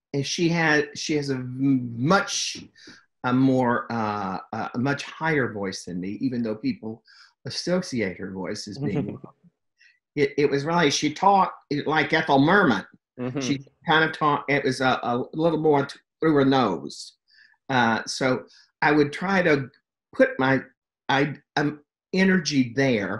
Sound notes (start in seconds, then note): 8.8 laughs